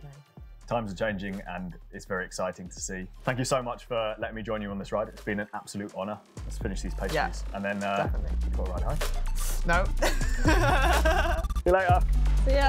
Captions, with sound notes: - Times are changing and it's very exciting to see. Thank you so much for letting me join you on this ride. It's been an absolute honor. Let's finish these pastries. - Yeah, definitely. - And then you gotta ride home. - No. (laughs) - No. - See you later.